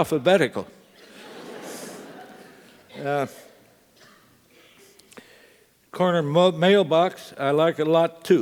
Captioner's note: laugh